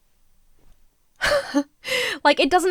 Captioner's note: laughs incredulously